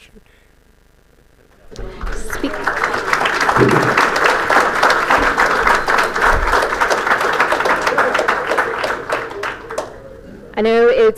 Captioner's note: applause